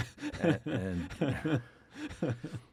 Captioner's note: laughing